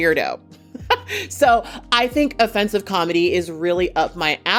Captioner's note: chuckles